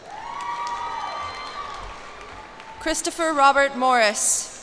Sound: cheers and applause

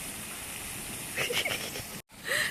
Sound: giggle

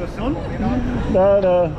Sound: laughs

